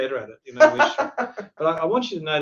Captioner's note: laughs